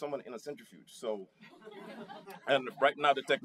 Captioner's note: laughter